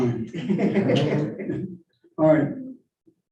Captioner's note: all laughing